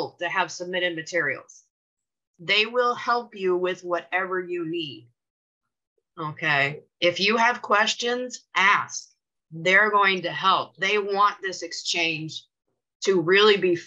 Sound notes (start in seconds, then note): none